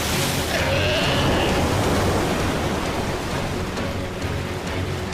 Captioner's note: sea lion bleating